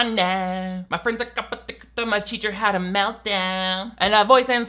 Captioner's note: muttering